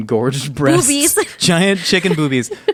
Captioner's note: laughing